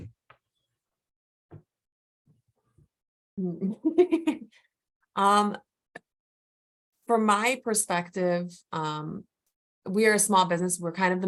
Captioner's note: chuckling